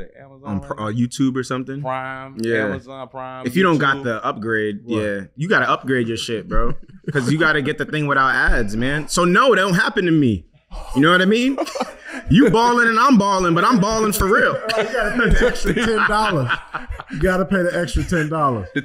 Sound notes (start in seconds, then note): 6.4 chuckles; 13.6 Kwame laughing